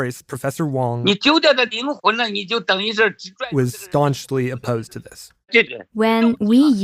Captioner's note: speaking Mandarin